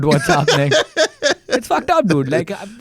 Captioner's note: laughs